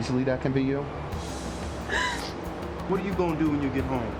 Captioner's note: sobbing